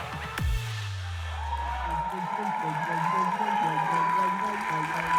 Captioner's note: audience cheering